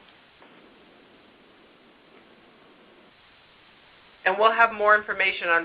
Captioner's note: silence